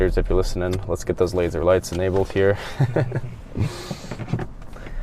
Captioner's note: laughs